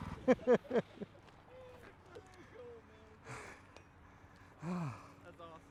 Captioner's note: laughs